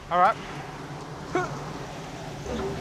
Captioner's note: groans